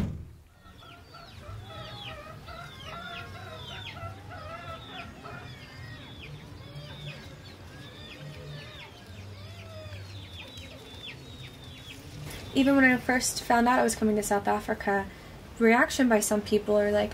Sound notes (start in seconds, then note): 1.4 chickens clucking; 2.9 baby crying